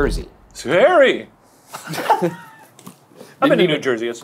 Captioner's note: laughing